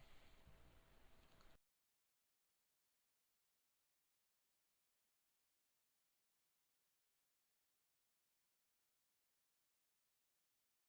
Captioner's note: audio drops